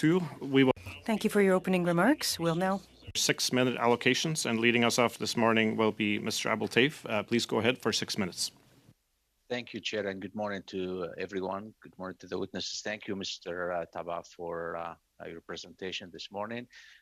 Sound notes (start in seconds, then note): 7.7 speaking French